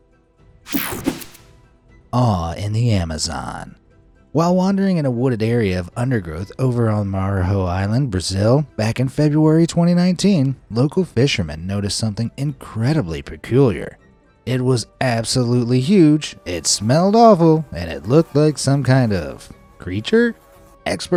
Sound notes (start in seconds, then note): 0.7 air whooshing